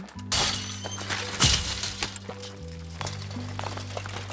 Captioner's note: fence clatters